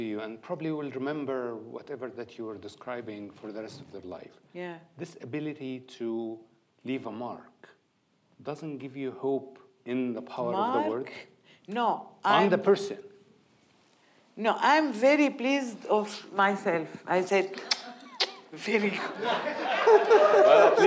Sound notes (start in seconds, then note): 17.5 smooching; 18.9 audience laughing